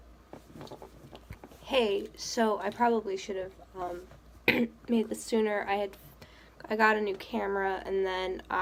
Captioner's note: clears throat